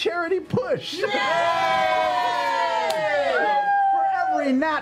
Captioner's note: cheering